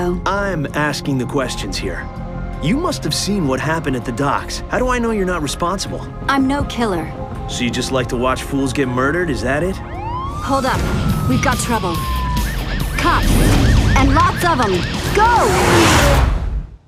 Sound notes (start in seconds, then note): 9.8 police siren